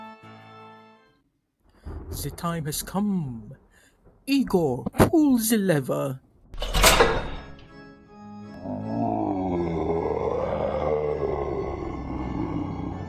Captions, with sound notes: Ze time has come Igor, pull ze lever. (sound of a rock pulling the lever) (monster groan)